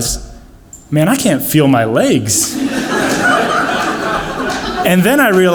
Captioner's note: audience laughs